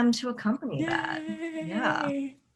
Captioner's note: singsong